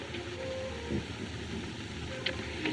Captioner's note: chuckles